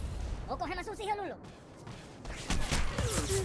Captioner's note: gunshots